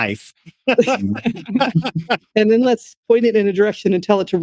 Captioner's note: laughing